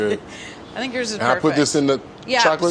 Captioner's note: laughs